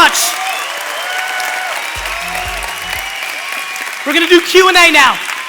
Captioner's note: cheering